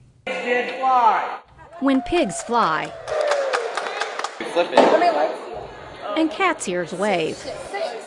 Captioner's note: crowd cheering